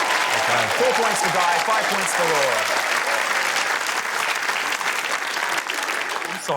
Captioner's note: applause